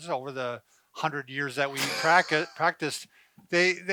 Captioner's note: laughing